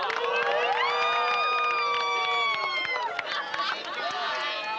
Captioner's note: hooting